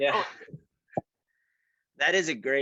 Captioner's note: both laugh